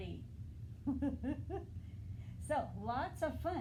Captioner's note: laughter